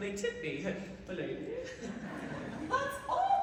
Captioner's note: laughter